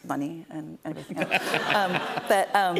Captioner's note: laughter